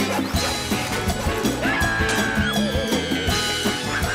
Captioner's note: Tools squeal with excitement